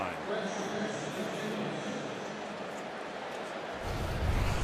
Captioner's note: pa announcement